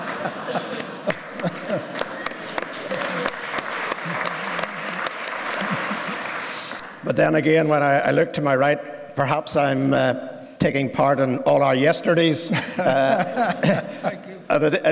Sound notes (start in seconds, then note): 2.4 laughter and applause